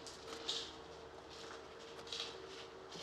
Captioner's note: none